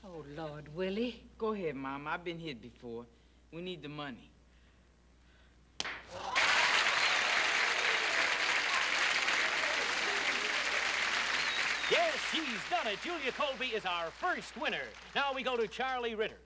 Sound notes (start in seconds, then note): 5.8 loud slap; 6.1 applause, laughter